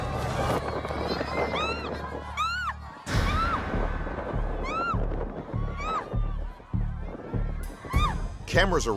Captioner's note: screaming